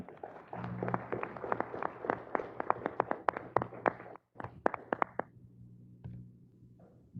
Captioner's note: applause